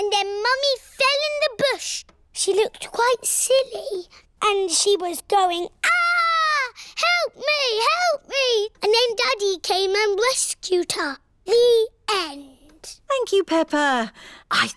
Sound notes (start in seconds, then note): none